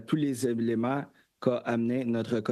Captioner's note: speaking French